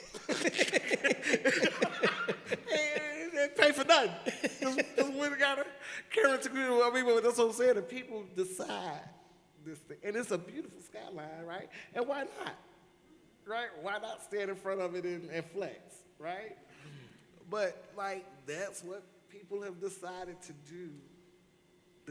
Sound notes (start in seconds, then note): 4.1 all laugh